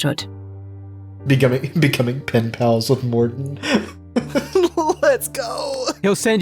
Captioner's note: chuckles